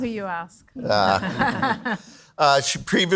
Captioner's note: panel laughs